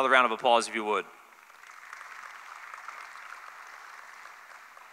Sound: applause

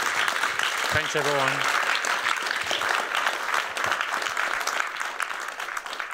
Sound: applause

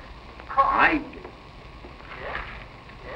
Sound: on phone

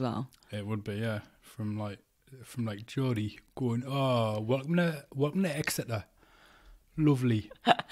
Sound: geordie accent

